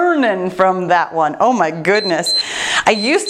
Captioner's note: timer beeps